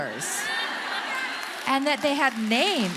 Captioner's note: audience laughing